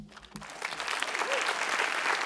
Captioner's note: applause